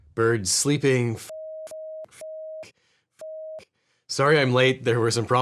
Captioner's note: beeps